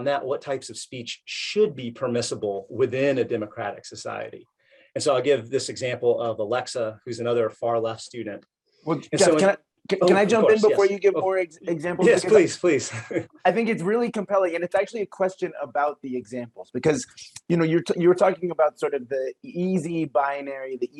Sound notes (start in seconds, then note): 12.7 laughs